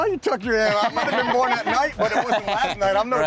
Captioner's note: laughing